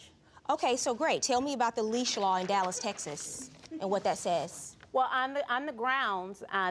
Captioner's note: none